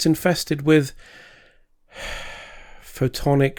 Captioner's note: sigh